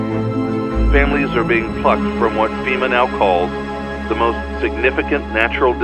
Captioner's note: man 1 on radio